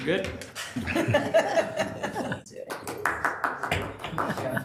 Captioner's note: people laughing